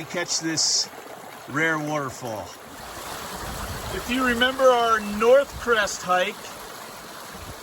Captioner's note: water rushing